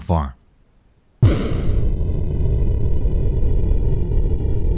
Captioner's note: rumbling sound